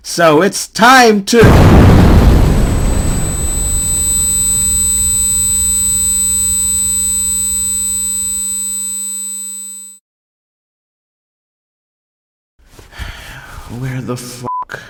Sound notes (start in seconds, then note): 1.4 big explosion; 2.8 ringing sounds